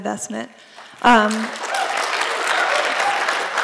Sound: applause

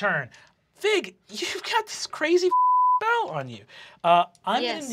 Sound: beep

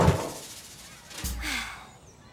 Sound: sighs

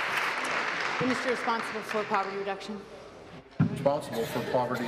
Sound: applause

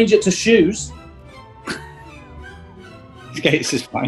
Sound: sniggering

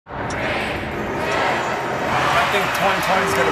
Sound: crowd

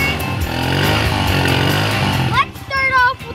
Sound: engine revs

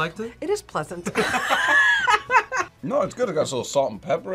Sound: both laugh

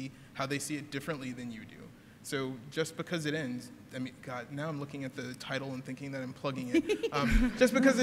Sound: laughter

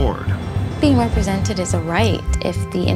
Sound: a woman speaking

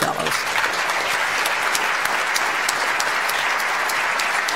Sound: audience applauds

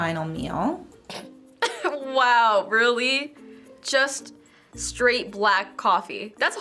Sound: snorting

